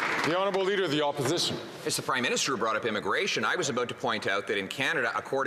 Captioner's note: some Applause